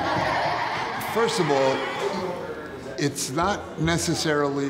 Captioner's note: children laughing and jumping